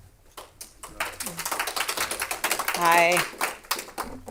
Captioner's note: clapping